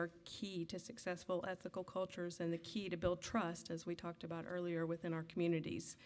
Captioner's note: none